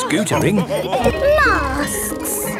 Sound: bell ringing

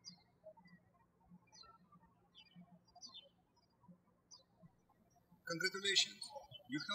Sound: birds chirping

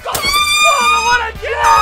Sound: air horn blowing

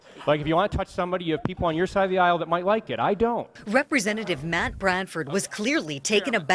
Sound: laughter

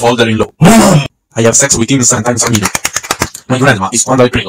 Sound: cheeks clapping

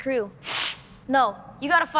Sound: hisses

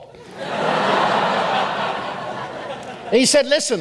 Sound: audience laughs

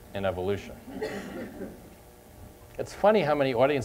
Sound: laughter

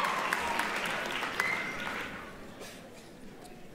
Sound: applause

